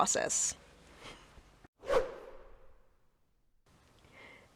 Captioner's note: whoosh